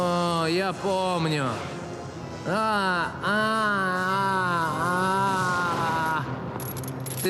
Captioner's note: groaning